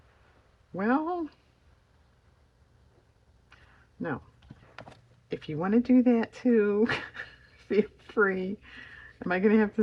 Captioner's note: laughs